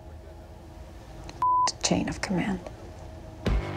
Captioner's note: beep